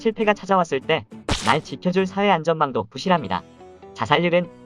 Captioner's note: snap